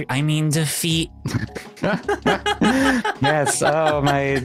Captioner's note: both laughing